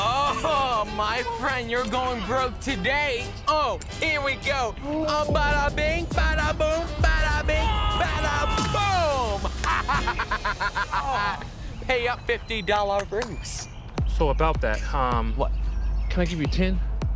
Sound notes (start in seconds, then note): 8.1 laughs